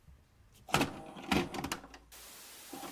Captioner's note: VCR whirring; static buzzing